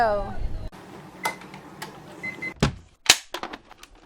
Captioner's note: beeps